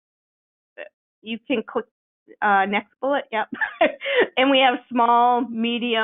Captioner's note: chuckles